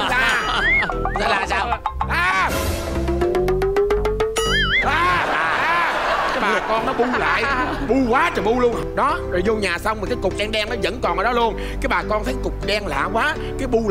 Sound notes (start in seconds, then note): 7.3 laughing